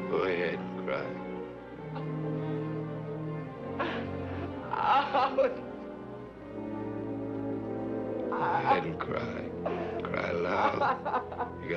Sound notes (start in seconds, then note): 4.8 David sobbing uncontrollably; 10.6 melancholic classical music